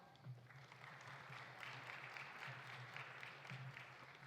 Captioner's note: audience applauding